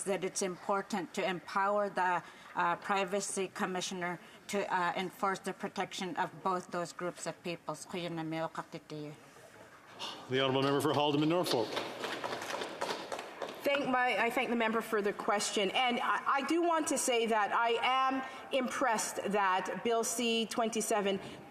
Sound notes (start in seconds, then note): 14.4 speaking Alternate Language